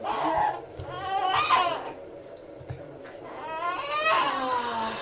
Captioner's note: baby crying